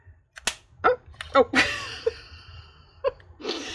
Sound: laughs

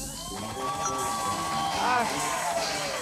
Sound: cheers and applause

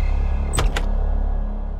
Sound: door creaks

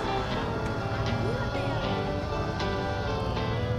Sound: indiscernible chatter

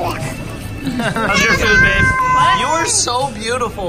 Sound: laughing

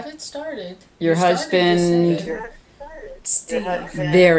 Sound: voiceover

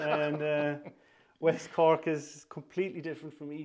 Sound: laughter

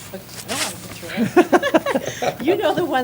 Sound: laughter

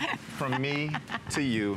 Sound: laughter

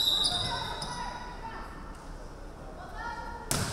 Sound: referee whistling

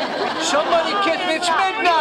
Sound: audience laughing

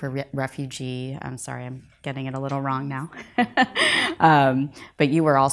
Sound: laughs

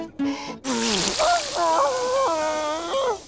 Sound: groaning

